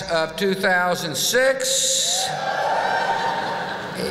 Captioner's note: whoop!